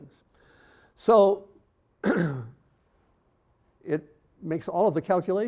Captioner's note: clearing throat